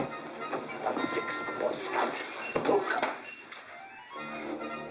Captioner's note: grumbling